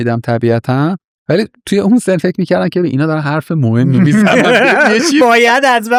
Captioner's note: laughs